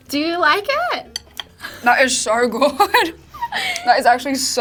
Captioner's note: laughs